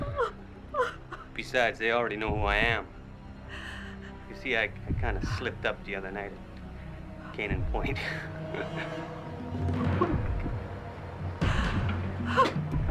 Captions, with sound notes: - Besides, they already know who I am. You see, I kind of slipped up the other night at Canaan Point. (laughs) - Oh my God.